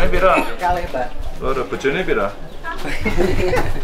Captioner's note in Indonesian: tertawa